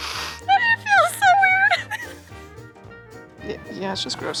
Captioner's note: laughs